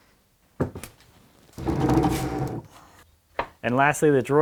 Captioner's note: wood scuffs